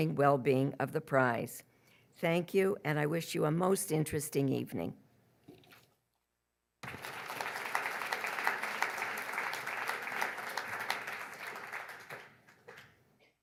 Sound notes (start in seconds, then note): 6.8 audience applauds